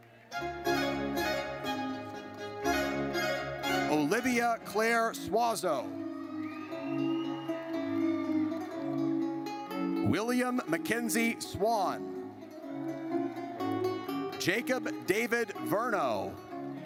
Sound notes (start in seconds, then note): 0.1 triumphant music; 5.9 audience cheers